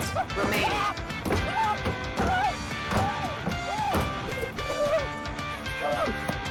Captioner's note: maniacal laughing